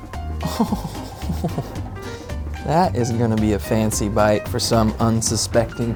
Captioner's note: laughs